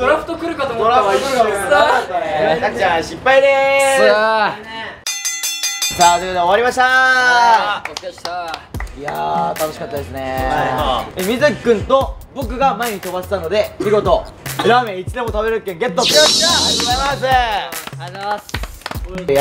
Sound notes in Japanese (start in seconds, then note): 7.8 パチパチパチ：拍手